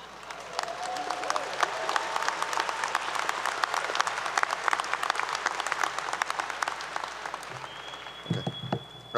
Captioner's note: applause 👏 👏